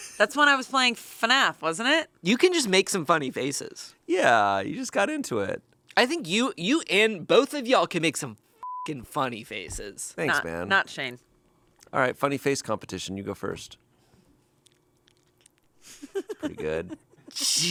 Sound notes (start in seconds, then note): 8.6 beep; 15.9 chuckles